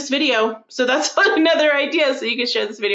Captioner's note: laughing